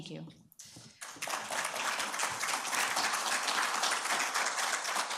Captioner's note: attendees applauding